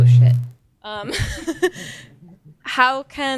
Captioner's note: laughing